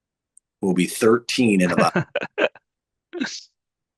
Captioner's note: interpreter laughing